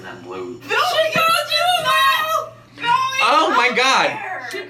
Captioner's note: yelling